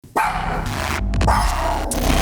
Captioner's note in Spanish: ladrido de perro